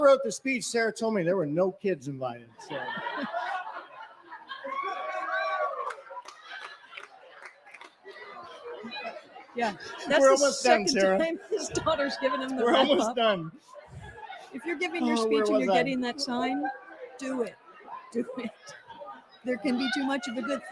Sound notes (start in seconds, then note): 4.2 cheering